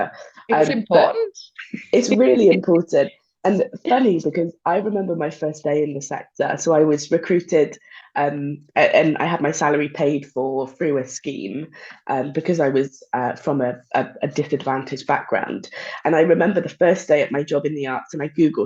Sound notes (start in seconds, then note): 0.3 laughing